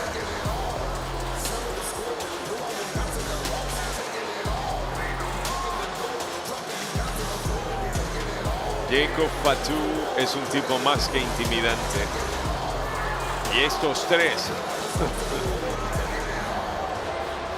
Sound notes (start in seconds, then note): 14.4 laugh